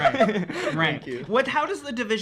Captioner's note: laughing